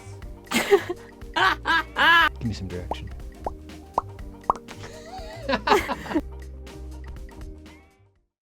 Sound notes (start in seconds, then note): 1.4 laughing; 4.4 popping; 4.8 laughing